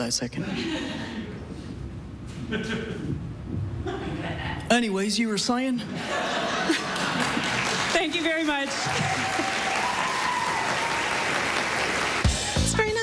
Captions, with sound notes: "HERE, HANG ONTO THAT A SECOND. ANYWAYS, YOU WERE SAYING?" THANK YOU VERY MUCH. [APPLAUSE]